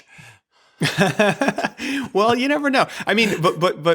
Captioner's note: laughs